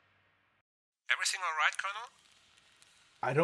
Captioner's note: radio voice